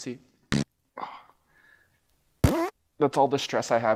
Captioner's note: farts